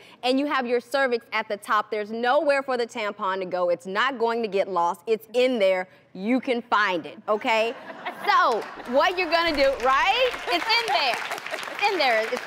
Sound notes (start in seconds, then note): 7.6 audience laughs; 8.4 audience claps